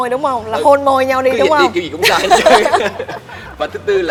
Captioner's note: laugh